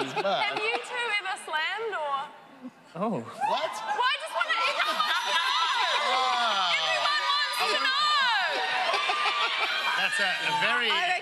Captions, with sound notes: -But-- -Have you two ever slammed? -Or-- -Oh. -What? -Well, I just want everyone -[audience cheering] -to know. Everyone wants to know. That's a very different--